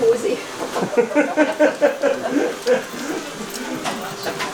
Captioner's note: Donny chuckling